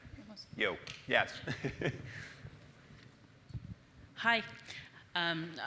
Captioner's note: laugh